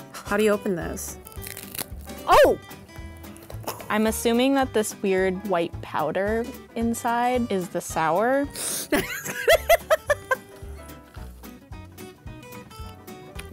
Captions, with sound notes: - How do you open this? Oh! - I'm assuming that this weird white powder inside is the sour. (sniffing) (laughing)